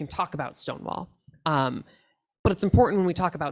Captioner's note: none